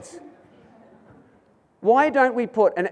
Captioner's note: audience murmurs